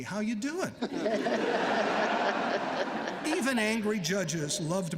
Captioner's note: laughter